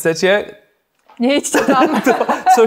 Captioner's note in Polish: śmiech